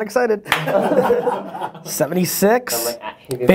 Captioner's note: laughing